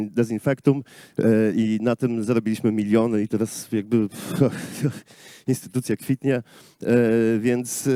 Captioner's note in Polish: śmiech